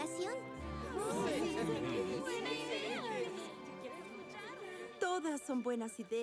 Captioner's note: agreement chatter